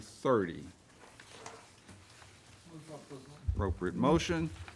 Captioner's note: pages rustle